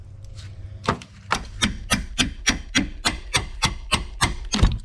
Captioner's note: thud; hammer-hitting-crowbar; bonk